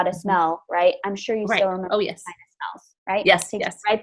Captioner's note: murmurs